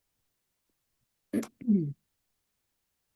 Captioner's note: clears throat